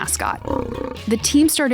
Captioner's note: gator growling